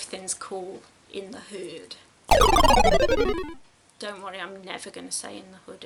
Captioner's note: defeat gaming sound effect